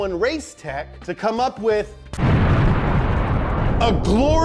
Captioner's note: explosion roars